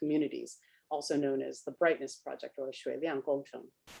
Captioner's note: speaks Chinese